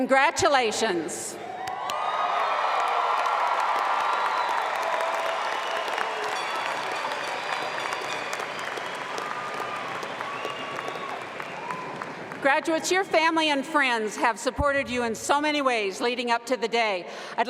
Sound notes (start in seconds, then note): 4.7 appluase